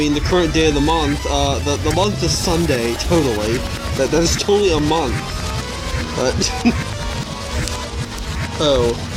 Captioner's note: chuckles; chuckles